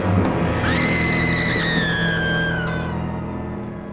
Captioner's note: Doris screaming